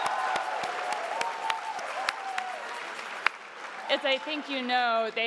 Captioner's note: crowd applauding